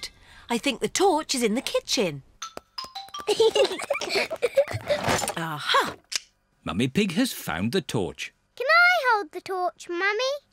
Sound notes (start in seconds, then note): 3.2 peppa and george giggling